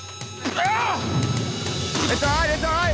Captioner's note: grunting